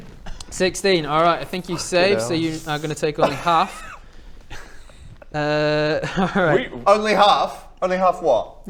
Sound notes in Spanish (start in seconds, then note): 5.8 risas